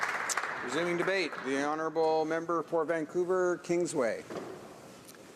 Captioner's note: applause